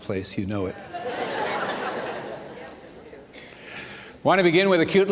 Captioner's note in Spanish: risas